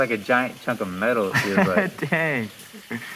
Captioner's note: laughing